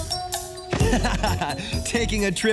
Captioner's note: laughing